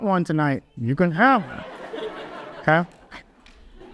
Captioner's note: audience laughs